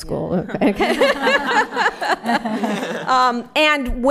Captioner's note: laughter